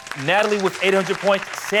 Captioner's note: applause